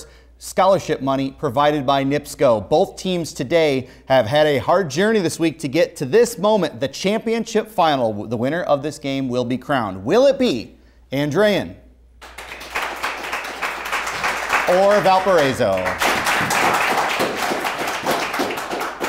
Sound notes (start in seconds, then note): 12.2 applause